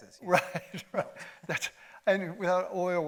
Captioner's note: chuckles